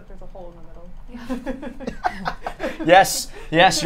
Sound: all laugh

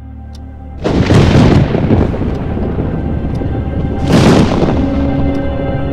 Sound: thundering

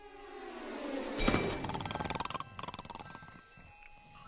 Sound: snoring

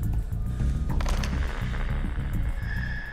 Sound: Static

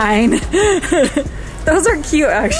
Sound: laughs

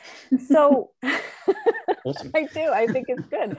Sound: both chuckle

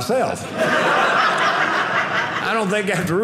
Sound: audience laughing

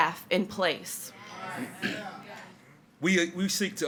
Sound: audience chattering

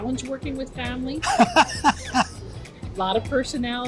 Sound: laughs

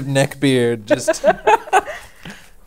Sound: laughter

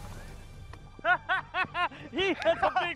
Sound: laughing

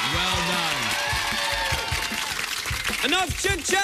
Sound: cheers and applause

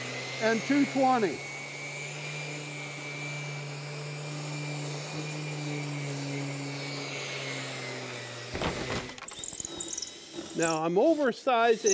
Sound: sander hums

